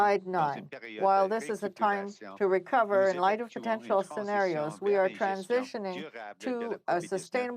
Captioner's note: speaking french